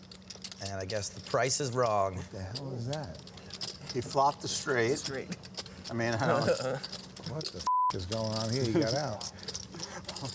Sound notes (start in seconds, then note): 5.9 laughs